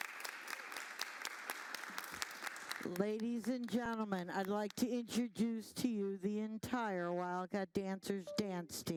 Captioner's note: applause